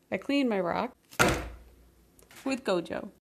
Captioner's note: thud